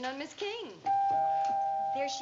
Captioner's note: doorbell rings